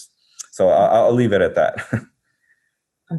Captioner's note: laughs